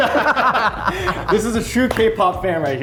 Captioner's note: both laughing